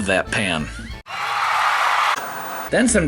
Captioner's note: audience cheering